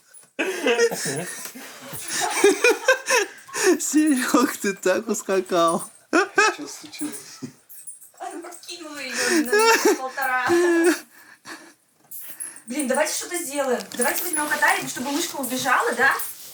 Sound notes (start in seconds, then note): 0.2 shouting; 0.4 laughter; 2.0 laughing; 3.5 shouting; 6.1 laughing; 9.1 laughing, wheezing